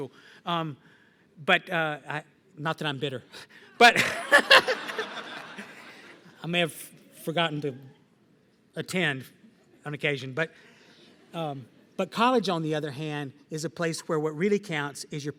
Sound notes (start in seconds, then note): 3.8 laughter